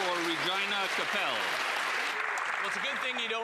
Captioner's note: applause